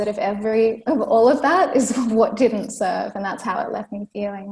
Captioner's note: laughs